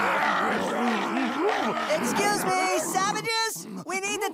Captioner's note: yelling, battle cries